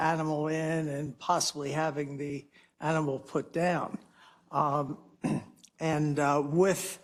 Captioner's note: cough